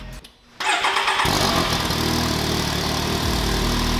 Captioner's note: engine starts